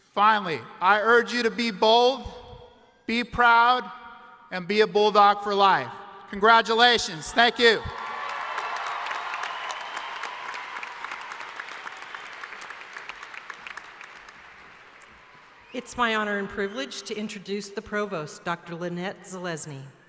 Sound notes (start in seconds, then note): 7.8 applause